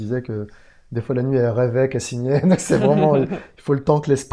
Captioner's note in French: rire